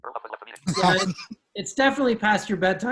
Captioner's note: glitching